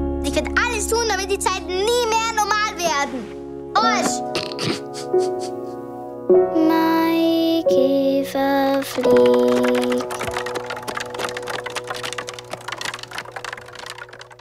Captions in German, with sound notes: Sie können alles tun damit die Zeiten niemals wieder normal werden. Arsch. (lachen) Maikäfer, flieg